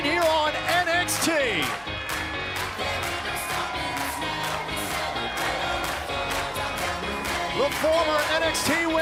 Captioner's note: crowd cheering